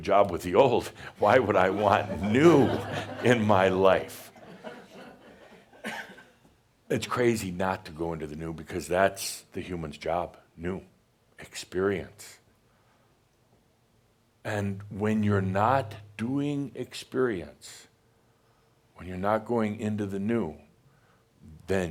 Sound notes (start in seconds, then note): 4.2 some chuckles